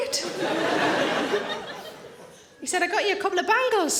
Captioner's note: audience laughing